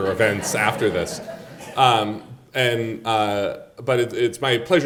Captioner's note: audience laughing